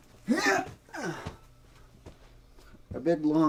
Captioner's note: grunting